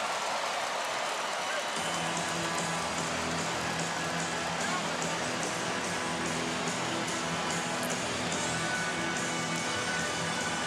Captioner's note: cheering and applause